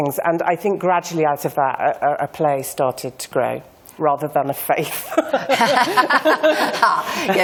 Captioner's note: laughter